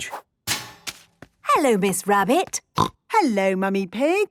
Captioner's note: snorting